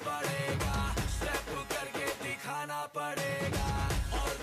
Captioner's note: speaking foreign language